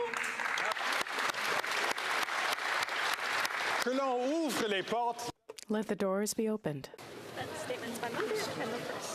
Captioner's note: applause